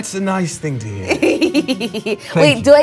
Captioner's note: laughing